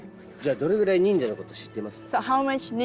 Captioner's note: speaking japanese